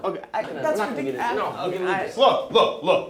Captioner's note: both stammering